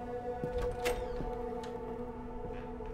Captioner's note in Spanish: La puerta se abre